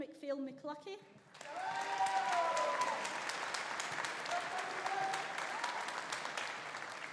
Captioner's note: audience applauding; audience cheering